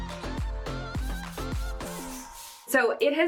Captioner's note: brush whooshing